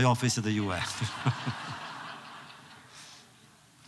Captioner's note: laughter